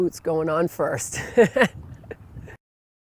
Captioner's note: laughter